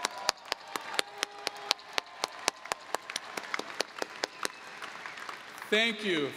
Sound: applause

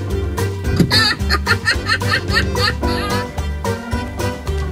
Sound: laughing

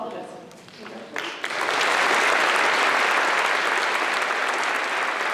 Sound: applause

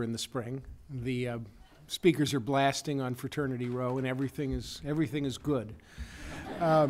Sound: laughter

